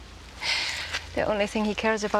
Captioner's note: laughs